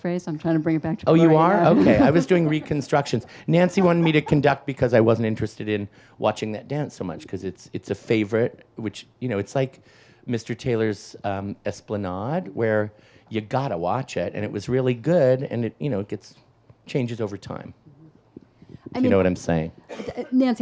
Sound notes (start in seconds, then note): 1.3 laughs; 1.4 audience laughs